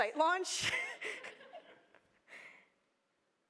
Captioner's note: laughter